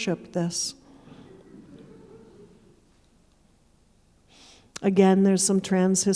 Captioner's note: audience chuckling